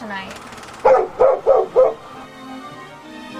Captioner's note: dog barking